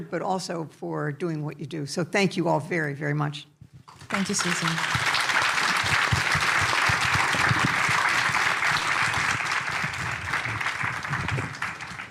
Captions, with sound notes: but also for doing what you do. So thank you all very, very much. Thank you, Susan. [APPLAUSE]